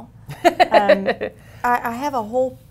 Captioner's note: laughter